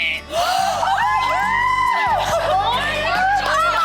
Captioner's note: women gasp